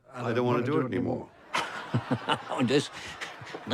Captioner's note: laughter